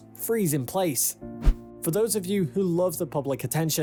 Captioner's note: screen swishes